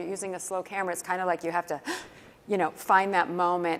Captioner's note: quick inhale